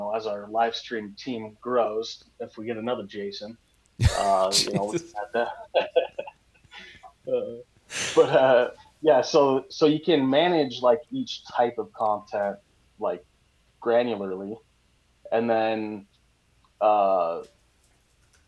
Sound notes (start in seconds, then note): 4.0 laughs